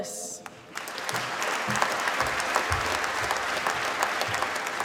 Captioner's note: applause